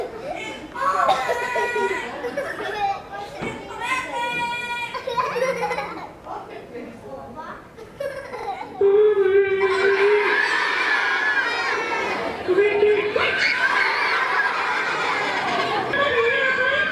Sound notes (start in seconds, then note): 12.8 children scream and laugh; 14.7 silly puppet voice